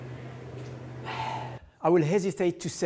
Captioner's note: exhales